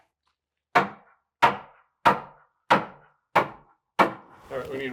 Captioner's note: hammer knocking